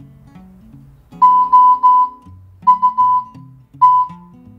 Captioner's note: beeping; beeping